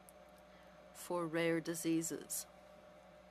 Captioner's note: speaking French